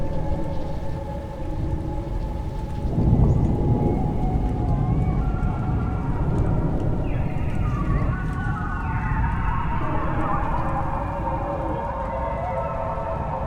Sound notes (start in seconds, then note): 3.1 animals howl